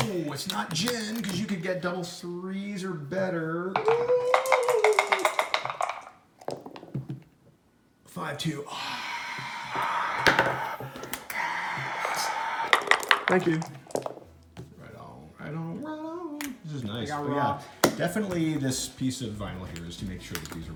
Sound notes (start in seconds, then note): 3.8 dice shaking; 8.6 fake applause